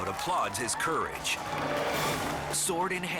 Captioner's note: crowd cheering